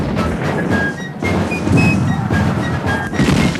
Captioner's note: booming